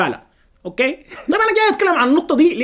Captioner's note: laughter!